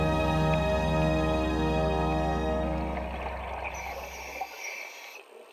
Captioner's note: scuba gear breathing